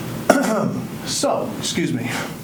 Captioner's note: clears throat